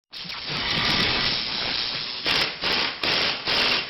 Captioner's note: drilling sounds